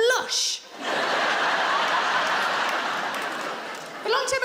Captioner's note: audience laughs